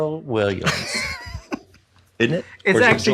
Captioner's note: laughs